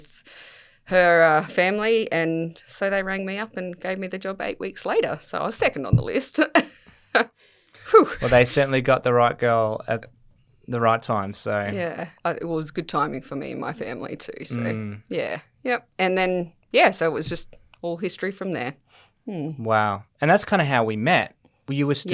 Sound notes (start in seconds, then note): 7.8 laughs